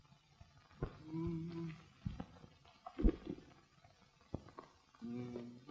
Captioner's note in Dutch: neuriënd muzikaal